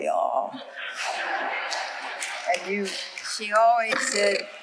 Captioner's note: audience laughing